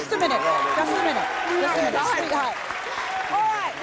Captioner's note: audience cheering and applauding